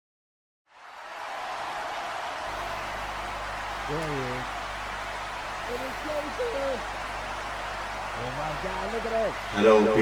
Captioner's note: crowd noises